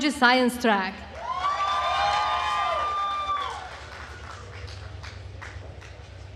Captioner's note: attendees cheering and applauding